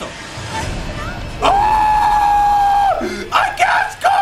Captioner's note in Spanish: Grita